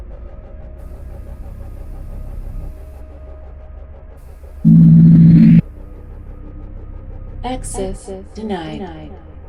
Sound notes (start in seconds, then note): 4.6 device warbling